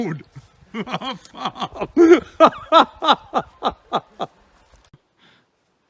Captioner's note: laughs